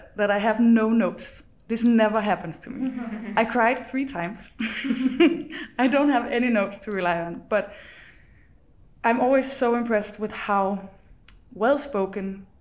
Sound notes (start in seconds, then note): 2.8 guests chuckles; 4.6 chuckles; 4.6 guests chuckles